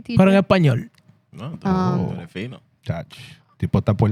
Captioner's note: speaking In Foreign Language